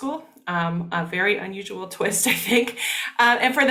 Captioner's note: laughing